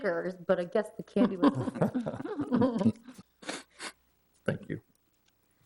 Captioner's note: attendees chuckling